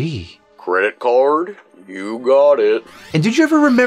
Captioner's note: through Talkboy